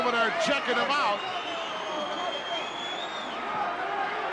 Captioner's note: crowd yelling